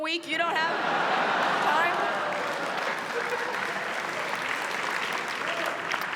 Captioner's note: laughter